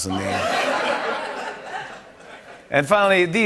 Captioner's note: laughter